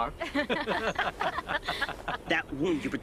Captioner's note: laughing